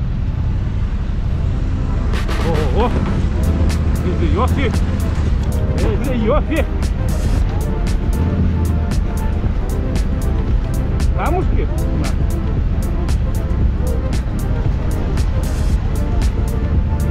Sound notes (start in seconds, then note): 6.5 heavy russian accent